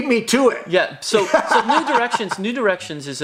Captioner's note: laughing